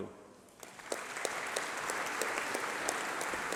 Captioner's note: applause